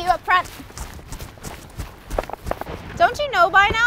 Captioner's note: footsteps receding